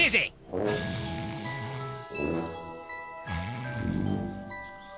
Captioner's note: snoring